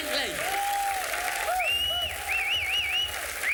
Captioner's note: whistles loudly